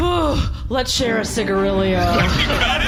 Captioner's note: gasping